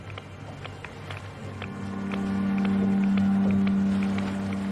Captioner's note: hydrophone clicking